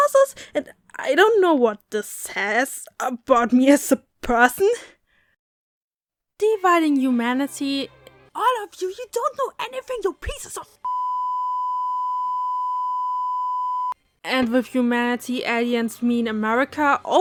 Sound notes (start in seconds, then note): 10.8 peep